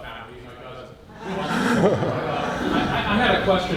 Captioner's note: audience laughs